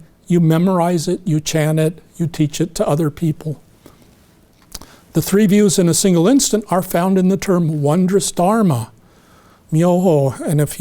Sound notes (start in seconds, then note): none